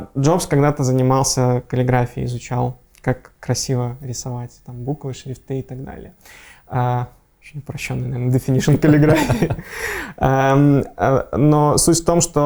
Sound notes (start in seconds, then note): 8.6 both laughing